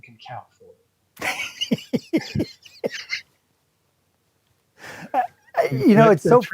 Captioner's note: laughs